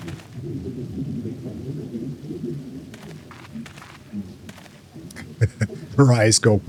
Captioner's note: laughter